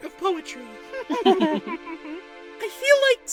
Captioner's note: chuckles